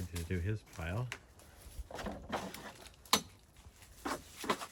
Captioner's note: rummaging sounds; more rummaging sounds